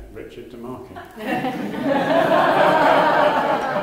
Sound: laughter

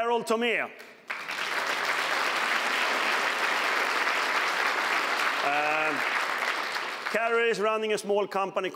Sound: applause

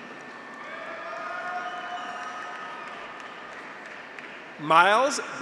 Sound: audience applauds; graduates cheer

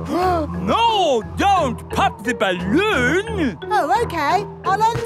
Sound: gasps

